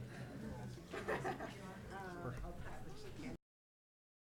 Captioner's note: laughing